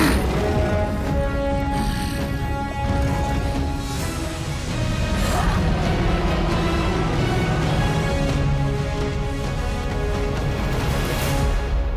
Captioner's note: grunting